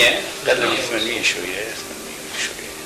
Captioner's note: phone is ringing in the background